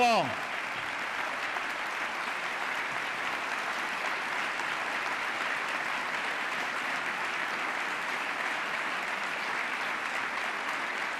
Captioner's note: applause